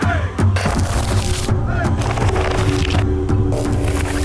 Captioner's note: wood cracking